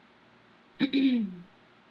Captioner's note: clears throat